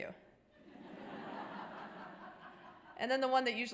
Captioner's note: audience laughter